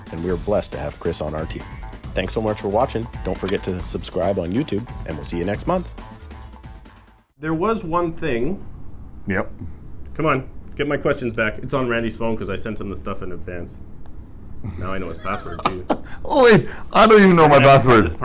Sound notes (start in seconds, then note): 14.6 laughs